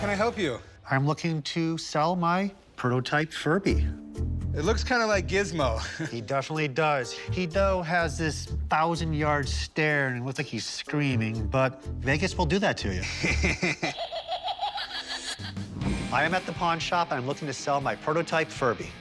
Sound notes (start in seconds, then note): 13.0 laughs; 13.0 menacing laughter